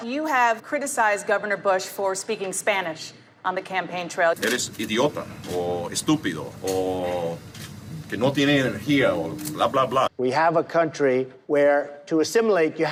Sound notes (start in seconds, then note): 4.4 speaking foreign language